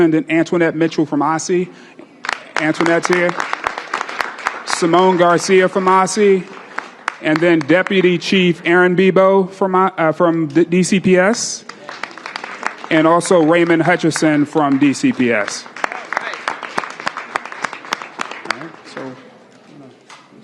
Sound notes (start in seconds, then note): 16.8 applause